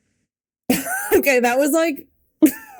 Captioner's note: Mikaela laughing